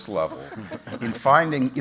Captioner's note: laughter